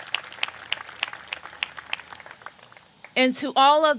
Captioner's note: applause